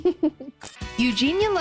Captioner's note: Fig laughing